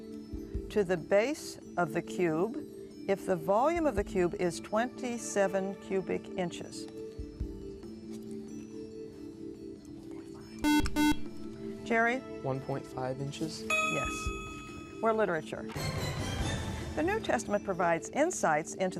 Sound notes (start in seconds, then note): 7.7 whispering; 10.6 buzzer